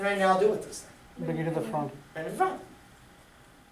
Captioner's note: voiceover